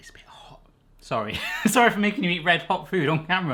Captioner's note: laughing